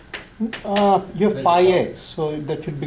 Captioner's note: voiceover